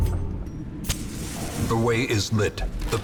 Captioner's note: match strike and hiss